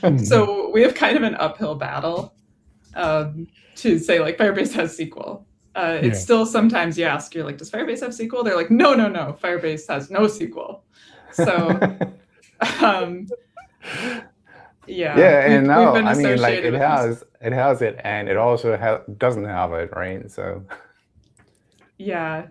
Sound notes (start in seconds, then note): 11.3 laughter